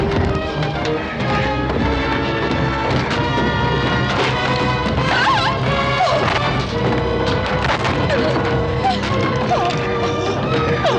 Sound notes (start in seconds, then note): 4.6 helen shouts; 8.8 helen whimpers